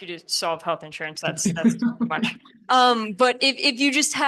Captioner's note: laughs